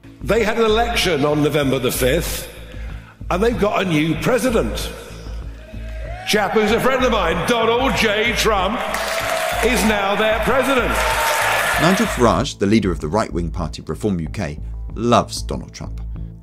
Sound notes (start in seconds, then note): 11.1 cheers